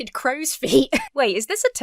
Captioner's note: chuckles